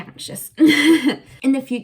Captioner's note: nervous laugh